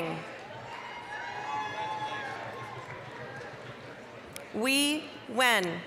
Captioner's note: applause, cheering